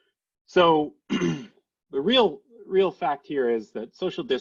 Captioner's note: clears throat